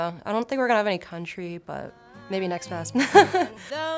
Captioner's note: laughs